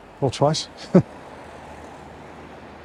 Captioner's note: chuckles